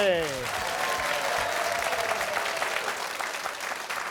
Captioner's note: cheers and applause